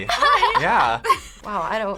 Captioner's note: laughs